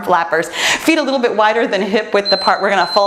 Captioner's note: timer beeps